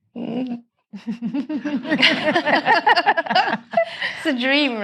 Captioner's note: all laughing